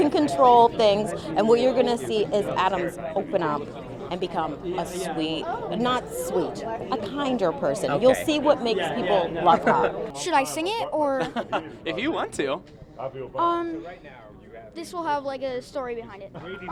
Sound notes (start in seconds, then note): 11.2 interviewer chuckles